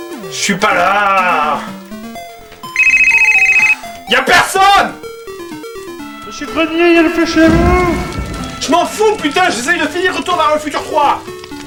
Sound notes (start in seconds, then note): 2.7 phone's ringing